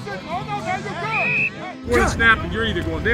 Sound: whistle Blows

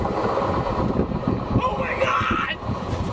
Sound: yelling

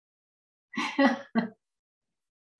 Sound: laughs

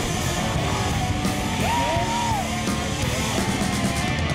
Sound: cheering

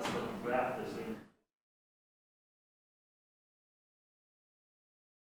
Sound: chatter in the background

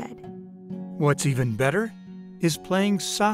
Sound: voiceover

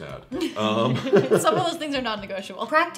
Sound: laughing

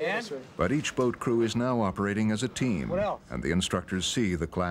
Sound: voiceover

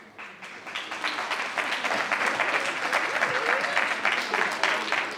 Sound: attendees applauding

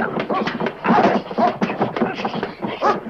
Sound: barking

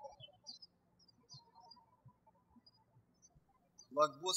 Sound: birds chirping

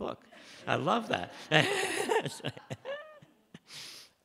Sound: laughs

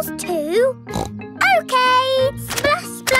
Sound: snorts

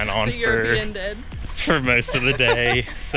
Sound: laughs

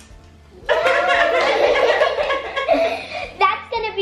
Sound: laughs

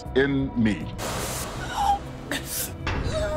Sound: gasping

